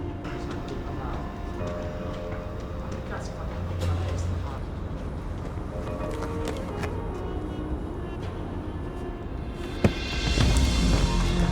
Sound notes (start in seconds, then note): 2.7 speaks in foreign language; 6.6 dramatic music